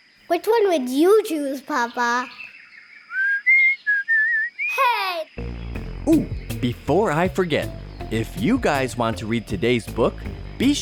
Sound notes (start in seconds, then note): 3.0 whistles